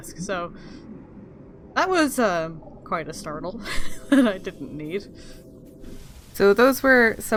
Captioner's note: laughs